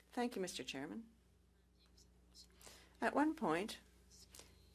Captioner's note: speaking French